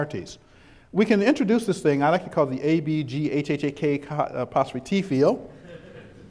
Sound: chuckles

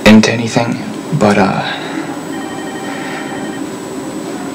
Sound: none

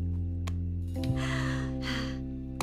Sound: sighing

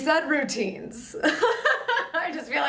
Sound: laughing

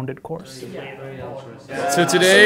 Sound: chatter

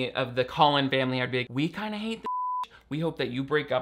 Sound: beep

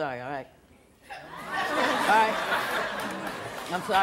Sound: audience laughs

